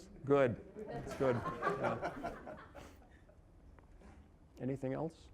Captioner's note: audience laughing